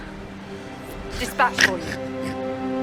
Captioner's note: snickering